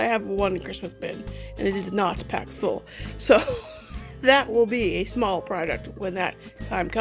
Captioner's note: laughs